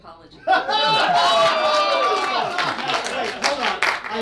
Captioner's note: laughing and cheering